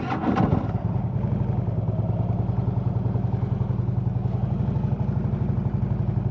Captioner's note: motorcycle engine revs up